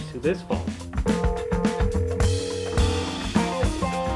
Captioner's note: phone ringing; dramatic music